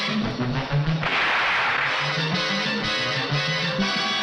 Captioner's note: gun shoots